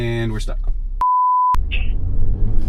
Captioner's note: tone beeping; engine rumbling